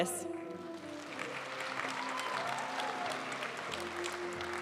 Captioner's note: audience applauding; graduation music